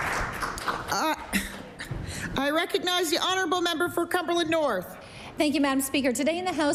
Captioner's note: applause